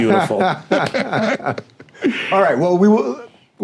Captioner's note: laughing